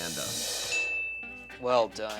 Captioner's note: bell dings